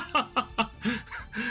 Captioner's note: laughs